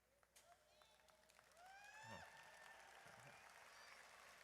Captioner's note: audience applauds; audience cheers